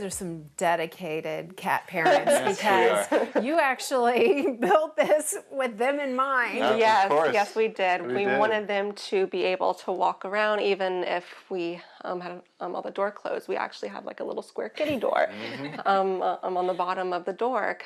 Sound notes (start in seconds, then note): 2.0 laughs